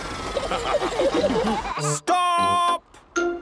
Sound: all laughing

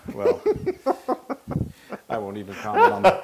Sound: laugh

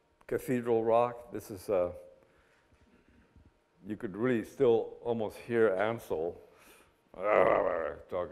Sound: growls

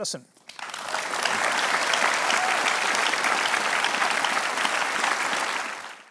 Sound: applause

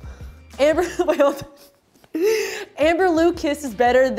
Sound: laughs

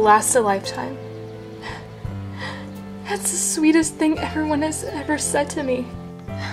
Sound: cries

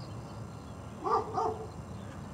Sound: dog barking

